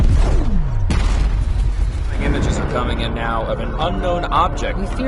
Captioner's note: explosion rumbles